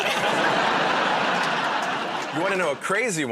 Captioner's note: laughter